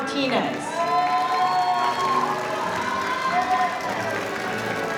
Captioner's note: crowd cheering